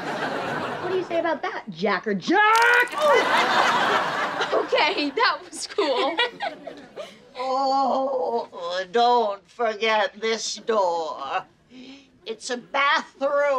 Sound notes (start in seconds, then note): 2.8 laughing; 7.4 groaning